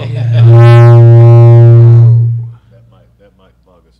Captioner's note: feedback buzzes